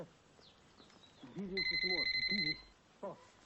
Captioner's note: phone ringing